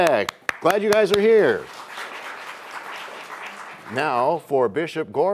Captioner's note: applause